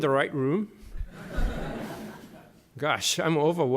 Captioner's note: laughter